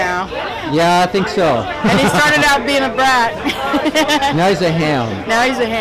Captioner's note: laughs